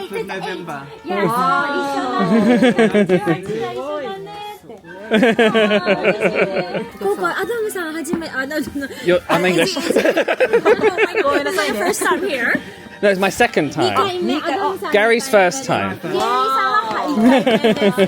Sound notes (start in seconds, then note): 2.2 laughing; 7.4 speaking Japanese; 8.7 laughing; 16.0 laughing